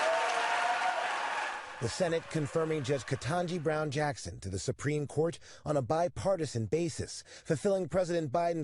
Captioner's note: applause